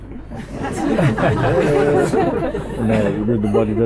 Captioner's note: laughter